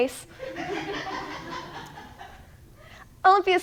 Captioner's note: audience laughs